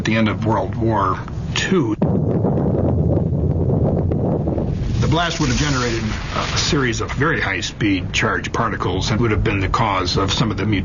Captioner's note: explosion